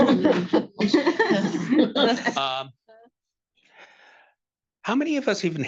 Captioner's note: attendees laughing